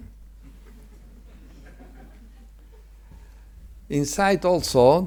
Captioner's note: attendees chuckle